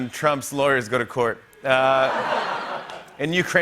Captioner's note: laughter